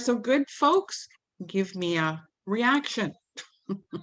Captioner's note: giggles